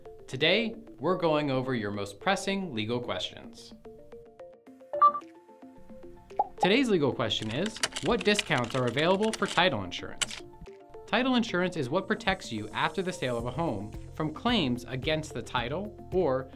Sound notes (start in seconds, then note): 4.9 screen beeps